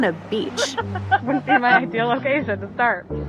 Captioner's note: laughs